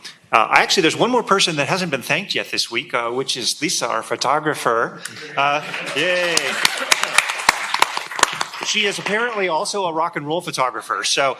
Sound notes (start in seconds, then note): 5.6 applause